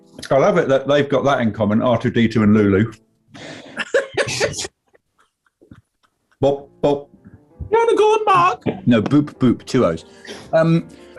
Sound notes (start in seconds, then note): 3.7 laughter; 7.6 plummy voice